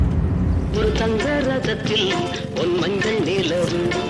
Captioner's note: phone rings